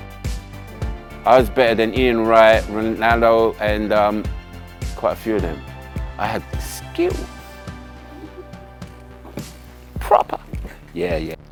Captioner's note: laughter